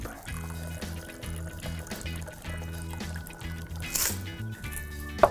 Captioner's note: liquid pouring